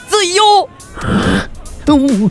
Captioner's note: growls?